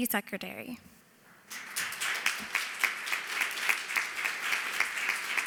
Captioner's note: applause